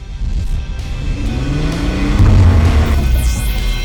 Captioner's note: revving